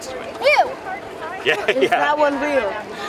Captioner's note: laughs